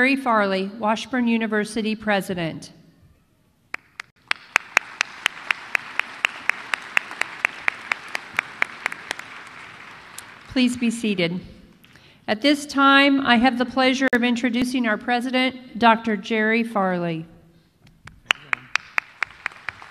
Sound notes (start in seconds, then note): 3.7 applause